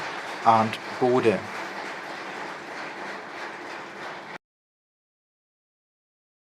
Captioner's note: applause